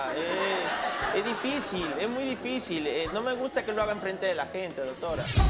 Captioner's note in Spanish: Risas